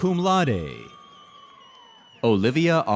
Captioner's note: audience cheers